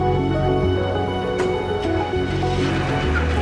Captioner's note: engine starts